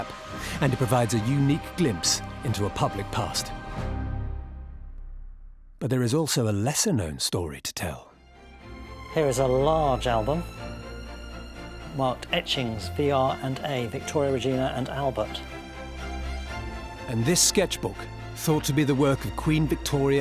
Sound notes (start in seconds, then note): none